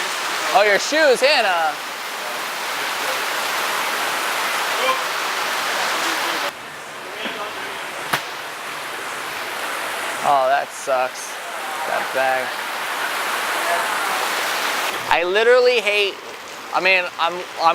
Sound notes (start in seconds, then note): 2.7 water rushing